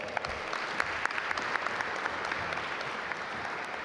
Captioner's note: audience applaud